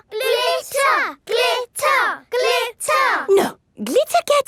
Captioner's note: chanting